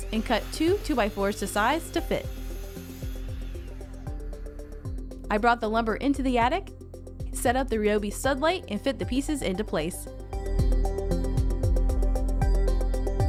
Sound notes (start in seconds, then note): 2.6 machine whirring; 10.5 upbeat music